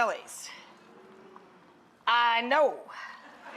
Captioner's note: audience murmurs in awe